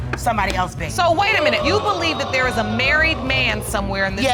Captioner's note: audience exclaiming